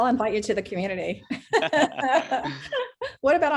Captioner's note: laughing